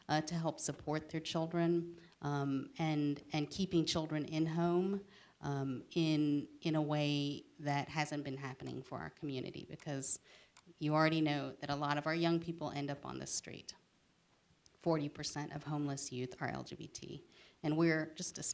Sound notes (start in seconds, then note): none